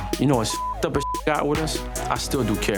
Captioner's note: beep